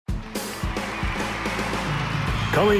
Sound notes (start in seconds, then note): 0.0 upbeat rock music; 0.1 crowd cheering